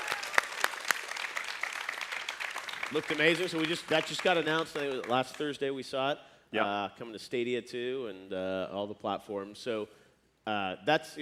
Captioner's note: applause